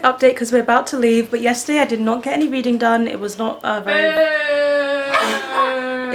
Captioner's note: laughs